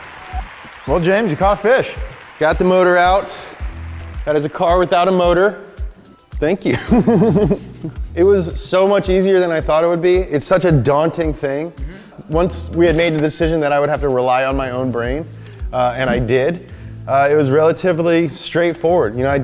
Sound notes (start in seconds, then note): 7.2 crew laughing